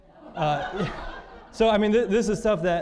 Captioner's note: audience laughing